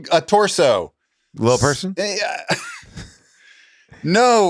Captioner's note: groans